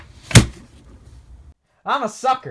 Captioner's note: bang